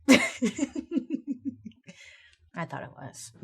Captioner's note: Bailey laughing